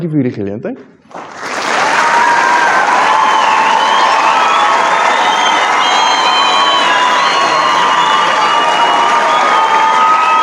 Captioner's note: applause